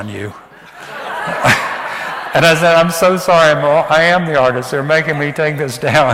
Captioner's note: audience laughs